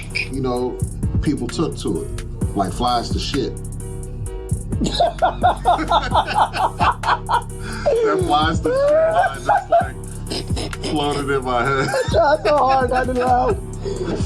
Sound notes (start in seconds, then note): 5.0 laughing; 9.7 laughing; 10.1 cackling; 12.2 laughing